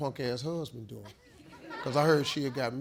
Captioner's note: audience laughs